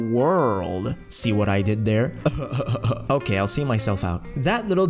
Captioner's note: sarcastic laugh